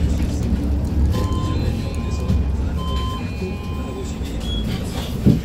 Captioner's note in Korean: 하차벨 소리